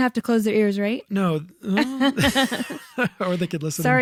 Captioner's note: laughing